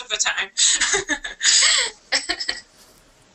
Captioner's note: laughter